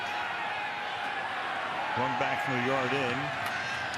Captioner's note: cheers, applause